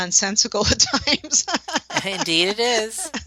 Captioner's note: laughter